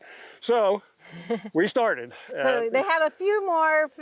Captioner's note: laughs